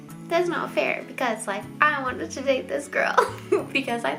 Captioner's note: chuckles